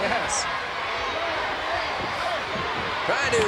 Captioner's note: crowd yelling